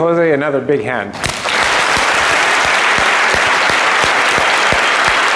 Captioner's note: applause